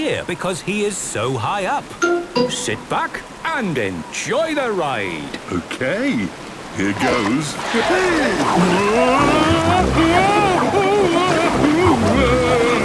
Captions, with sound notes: because he is so high up! - Sit back and enjoy the ride! - Okay, here goes! Wee! Whoa! (Daddy Pig shouting)